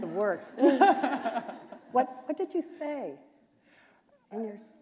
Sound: laughter

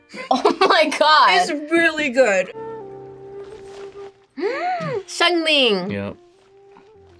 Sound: gasps

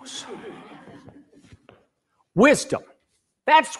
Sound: people laughing

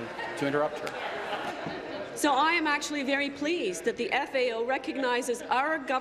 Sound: laughter; continued laughter

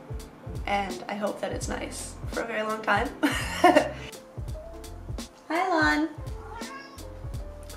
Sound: meows

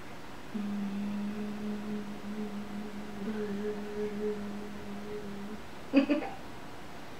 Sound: humming sounds; buzzing sounds; laughter

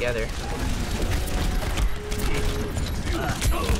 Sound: rapid gunfire

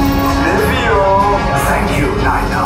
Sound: Nien Nunb in native language

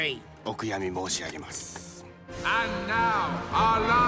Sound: speaking foreign language

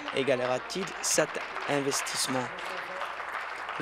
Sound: applause

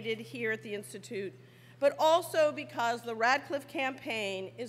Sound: none

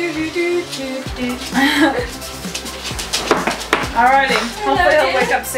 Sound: hums

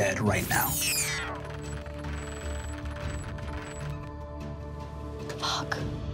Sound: electronic beeping; dramatic instrumental music

